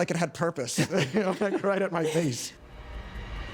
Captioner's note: laughs; suspenseful music